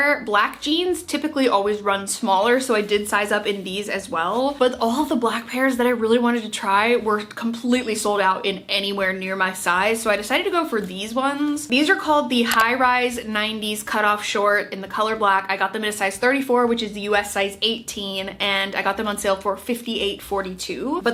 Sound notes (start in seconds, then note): 12.4 mouse clicking